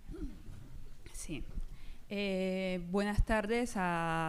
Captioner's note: speaking spanish